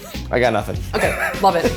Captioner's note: chuckling